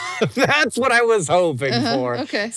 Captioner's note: laughs